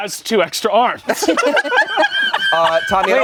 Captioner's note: everyone laughs